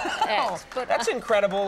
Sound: Conan laughs

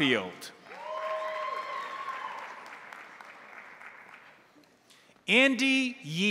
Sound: crowd applauding; crowd cheering

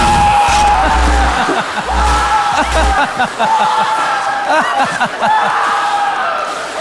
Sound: screaming; crowd laughing; screaming; applause

